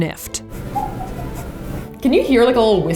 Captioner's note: bottle squeaks